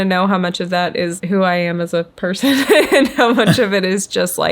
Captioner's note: laughs